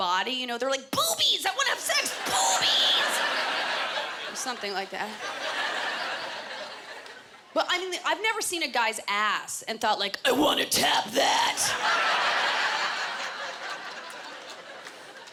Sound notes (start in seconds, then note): 10.0 guttural voice; 11.6 laughter